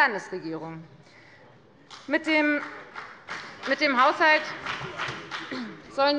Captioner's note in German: Beifall bei der FDP